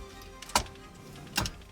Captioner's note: click sound